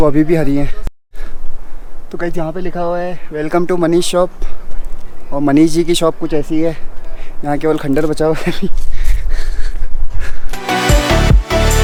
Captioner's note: laughs